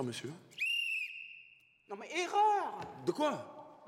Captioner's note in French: sifflet